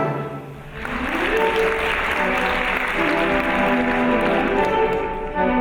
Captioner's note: audience applauds; orchestral music